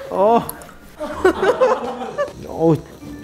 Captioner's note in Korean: 츄루룩